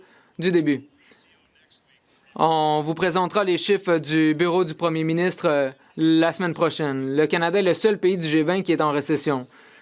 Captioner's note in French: voix de l'interprète